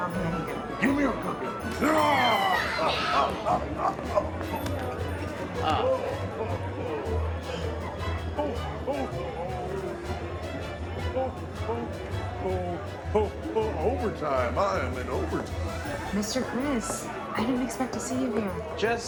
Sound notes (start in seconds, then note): 1.6 children screaming; 4.7 Santa laughing; 10.7 upbeat music